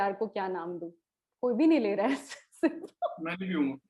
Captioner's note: chuckles